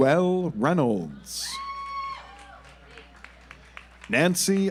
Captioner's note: audience applauds